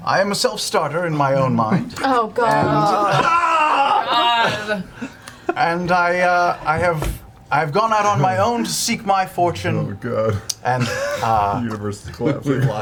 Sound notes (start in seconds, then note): 2.4 yells